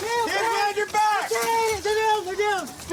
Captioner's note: screaming